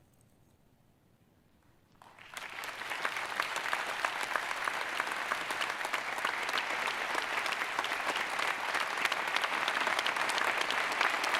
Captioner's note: applause